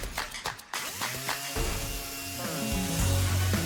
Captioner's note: nail gun clicks; sander buzzing